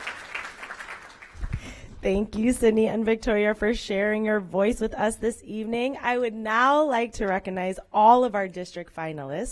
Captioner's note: applause